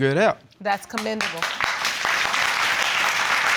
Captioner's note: audience applauding